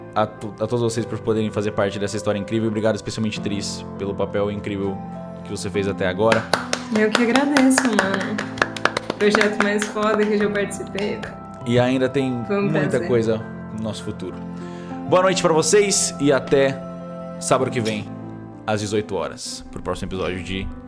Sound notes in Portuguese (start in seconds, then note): 6.3 aplausos